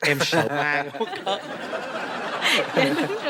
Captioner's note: laughing